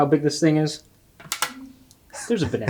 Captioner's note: magnet clicks; chuckles